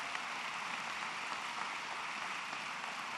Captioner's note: applause